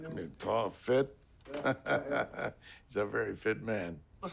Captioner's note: chuckles